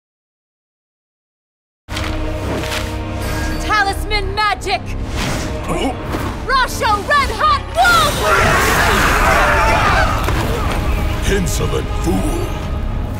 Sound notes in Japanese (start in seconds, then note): 7.8 悲鳴